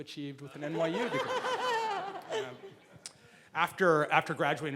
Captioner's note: laughing